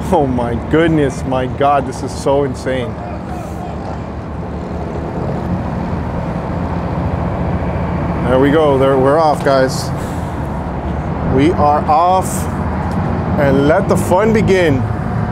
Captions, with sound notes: Oh my goodness, my god this is so insane. (man shouts) There we go, we're off guys. We are off. And let the fun begin.